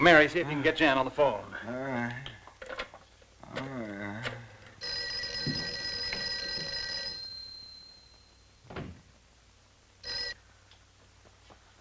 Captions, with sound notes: Mary, see if you can get Jan on the phone. (groaning) (phone ringing)